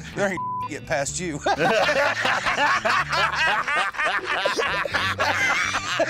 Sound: laughter

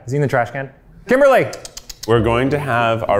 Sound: tsks

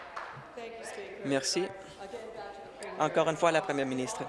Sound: applause

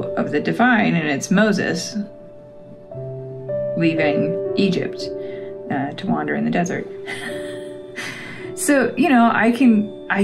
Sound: laugh

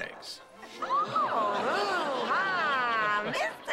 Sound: exclaiming

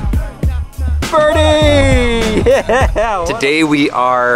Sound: laughs

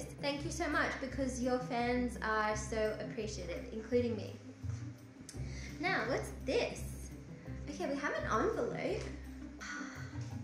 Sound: gasps

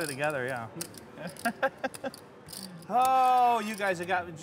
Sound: laughs

